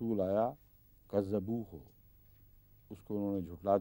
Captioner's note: Arabic